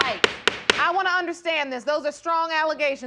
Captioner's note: gavel banging